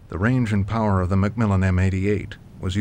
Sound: voiceover

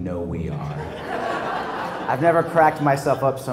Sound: laugh

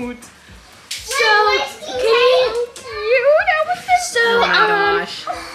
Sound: everyone talking excitedly

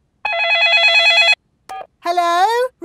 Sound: dialing; cell phone ringing

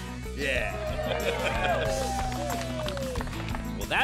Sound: cheering

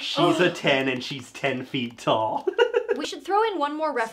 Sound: laughing

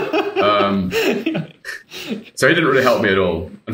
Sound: laughing

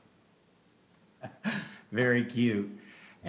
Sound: laughs

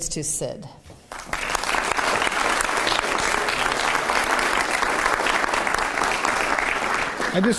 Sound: applause

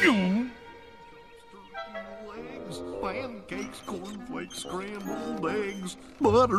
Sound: the sound of chaos ensuing

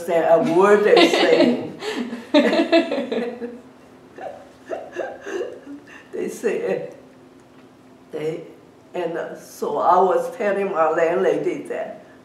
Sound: laugh

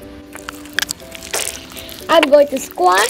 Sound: slime squishing

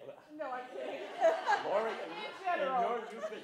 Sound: laughter

